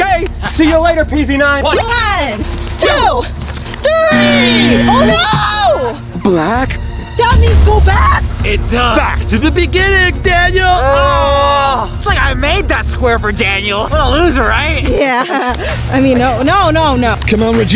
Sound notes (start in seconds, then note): 4.1 fail buzzer plays